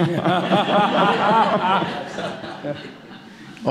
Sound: laughter

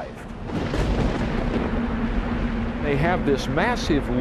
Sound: thunder crashing

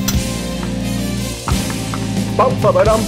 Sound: spatula taps; exciting music

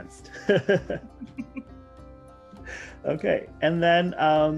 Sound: laughs

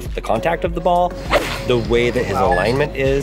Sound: golf club whacks

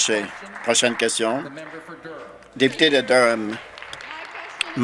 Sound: applause

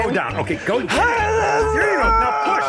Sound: grunting loudly

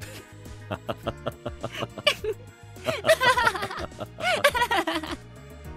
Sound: laugh together

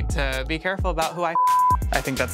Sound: beep

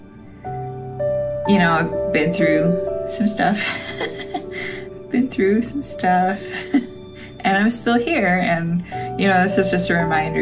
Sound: laugh

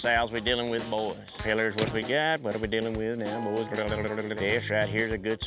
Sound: practicing auction chant

